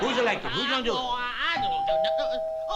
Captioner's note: doorbell